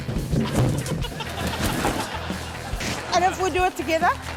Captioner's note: laughter